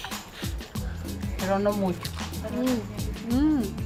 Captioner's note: speaks Spanish